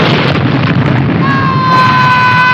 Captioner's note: screams